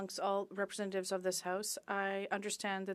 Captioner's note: speaking French